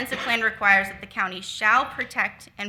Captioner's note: attendee coughs